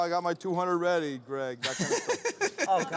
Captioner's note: laughs